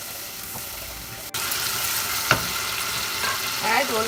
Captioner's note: ingredients in pan sizzle